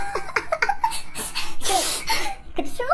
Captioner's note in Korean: 흑흑